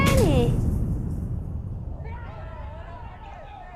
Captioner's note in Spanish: Golpes fuertes; Gente gritando